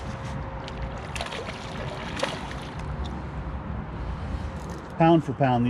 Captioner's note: fish splashing